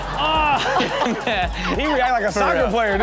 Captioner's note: crowd laughs